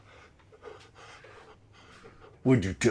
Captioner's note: Rusty panting